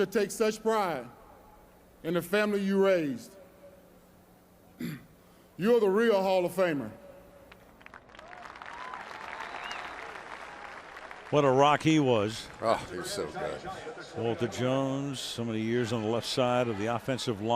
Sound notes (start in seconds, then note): 7.4 applause